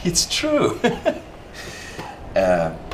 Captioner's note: laughter